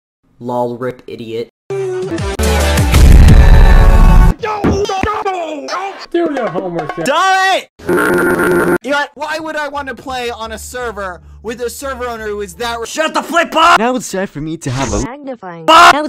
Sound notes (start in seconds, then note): 2.9 extra bass boosted stomp; 7.9 scrambled foghorn sound